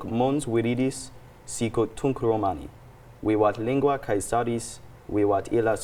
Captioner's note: continues speaking Latin